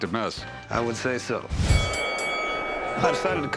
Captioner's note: fight bell rings